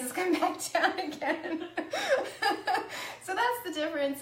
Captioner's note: laughs